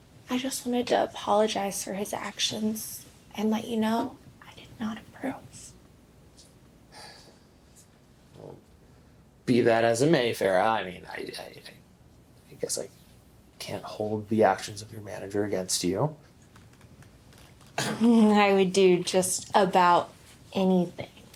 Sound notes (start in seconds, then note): 6.9 Randall sighs